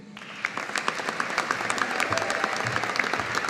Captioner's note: audience applauding